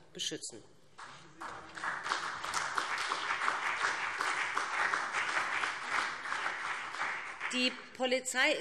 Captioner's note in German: Beifall BÜNDNIS 90/DIE GRÜNEN und CDU